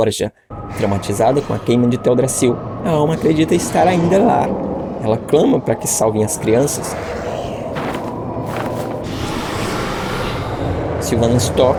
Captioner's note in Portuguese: gemido